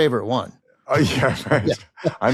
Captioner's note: both chuckle